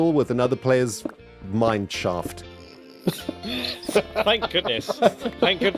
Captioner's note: group snickers